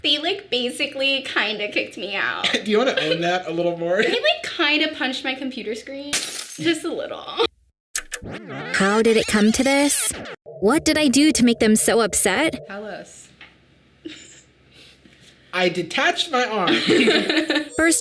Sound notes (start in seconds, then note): 6.2 glass breaking; 8.0 video rewinding; 16.7 Sadie laughing